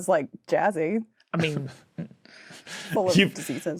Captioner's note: scattered snickering